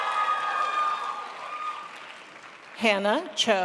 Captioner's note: crowd applauds